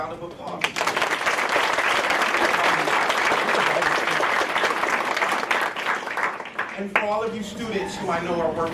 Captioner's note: applause